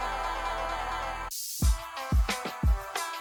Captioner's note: paint sprays; upbeat techno music